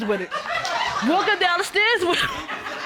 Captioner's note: audience laughing; chuckles